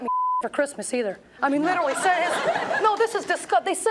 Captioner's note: audience laughs